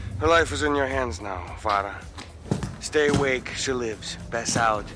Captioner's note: none